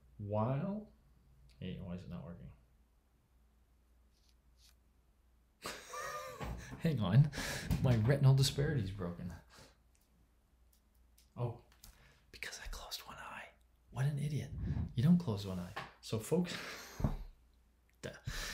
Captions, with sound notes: While, okay, why is it not working? (laughs) Hang on. My retinal disparity's broken. Oh, because I closed one eye. What an idiot. You don't close one eye. So focus-